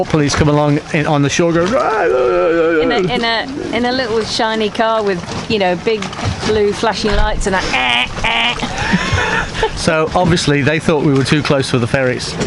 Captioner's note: honk honk